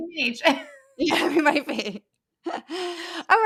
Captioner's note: laugh